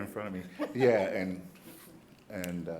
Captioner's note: light laughter